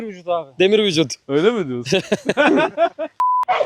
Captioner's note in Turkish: kahkaha